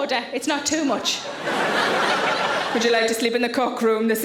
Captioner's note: audience laughing